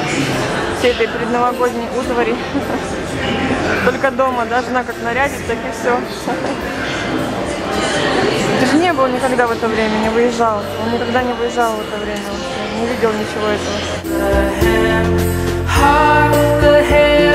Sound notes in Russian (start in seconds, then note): 2.3 смеётся; 14.0 Звучит новогодняя песня на английском языке